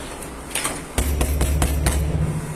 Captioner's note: knocking